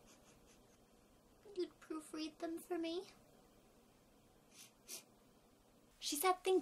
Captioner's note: sniff; sniff sniff